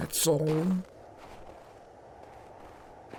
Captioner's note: footsteps in the snow